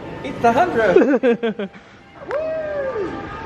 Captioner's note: laughs